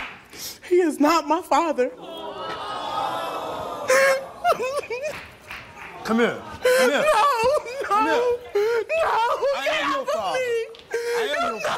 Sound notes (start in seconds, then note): 2.0 audience booing; 4.9 sobbing